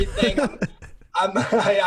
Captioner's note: laughs